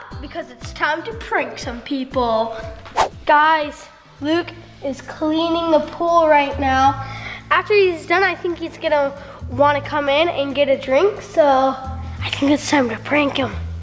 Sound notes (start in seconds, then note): 2.9 comic whoosh; 6.5 suspenseful jazz music